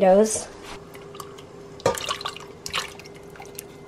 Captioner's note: splashes